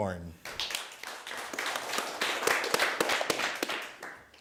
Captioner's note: applause